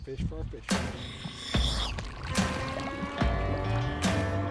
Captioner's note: air compressor